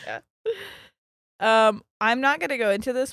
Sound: laughing

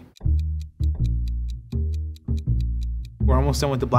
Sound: timer ticking

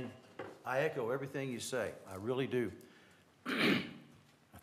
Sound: cough

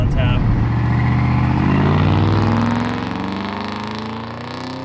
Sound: engine revving

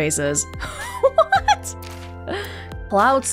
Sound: chuckles

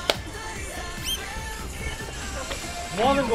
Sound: excited

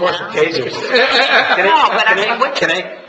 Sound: laughing

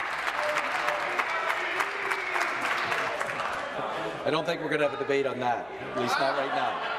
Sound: applause

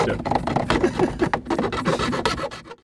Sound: laughs

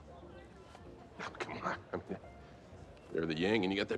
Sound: chuckles

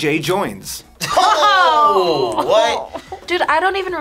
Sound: laughs

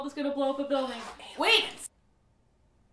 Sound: whispers

